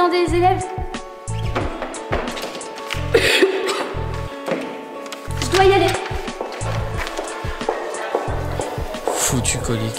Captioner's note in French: tousse